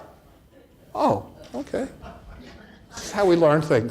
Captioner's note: audience laughs